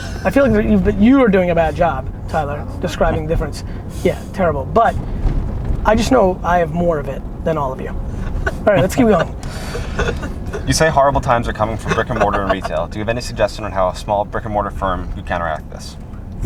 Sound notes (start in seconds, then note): 8.0 group laughter